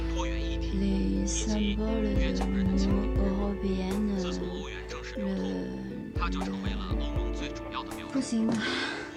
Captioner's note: French